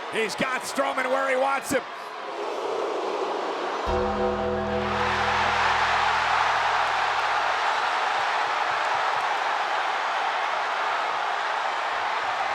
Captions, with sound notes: He's got Strowman where he wants him. (audience jeers) (ominous music) (audience cheers)